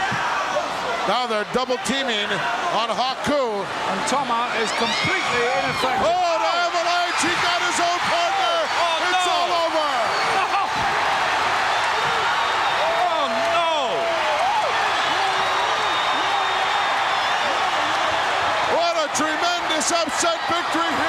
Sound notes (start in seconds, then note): 11.0 audience cheering